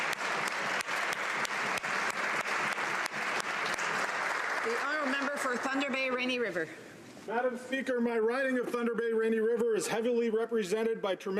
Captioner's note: applause